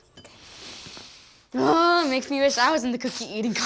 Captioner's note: sniffs